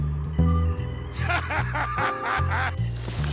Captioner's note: laughing